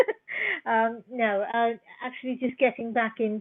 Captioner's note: laughter